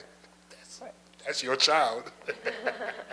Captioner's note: laughs